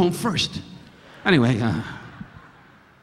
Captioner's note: audience laughing